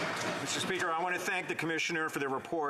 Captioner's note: applause